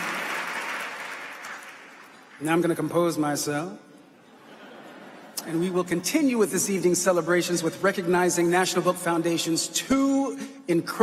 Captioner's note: applause